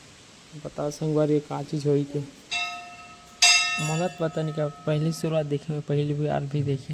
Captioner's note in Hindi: घंटी की आवाज़